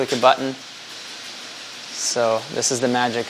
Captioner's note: scraping